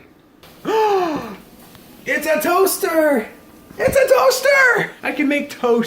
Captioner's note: gasps